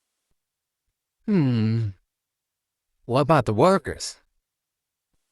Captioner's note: hums